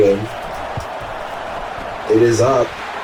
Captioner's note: crowd Noises